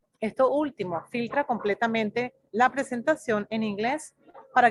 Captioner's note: speaks in foreign language